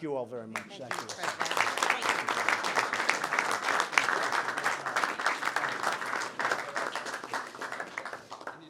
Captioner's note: applause